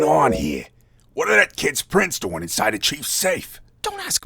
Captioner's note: whispering